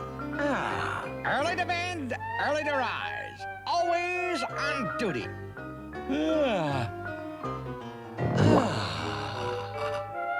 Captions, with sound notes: AHH... EARLY TO BED, EARLY TO RISE. ALWAYS ON DUTY. [YAWNS] [SIGHS]